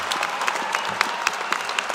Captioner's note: cheers and applause